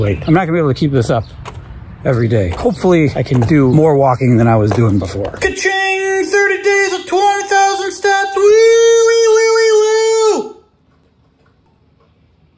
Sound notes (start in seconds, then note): 8.1 imitates siren